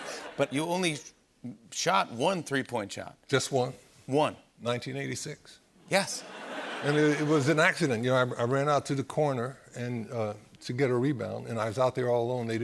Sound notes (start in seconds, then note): 6.2 laughter